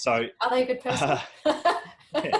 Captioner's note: laughs